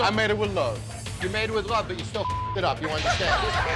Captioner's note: beep